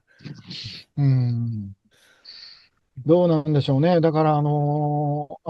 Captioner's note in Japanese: 鼻息